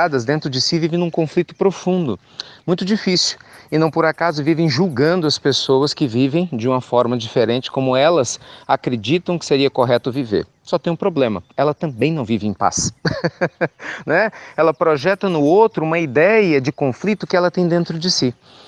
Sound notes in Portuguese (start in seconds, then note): 12.8 Risos